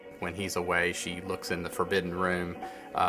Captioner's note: voiceover